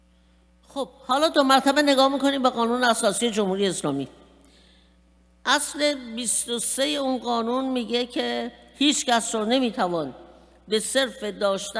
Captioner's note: speaking persian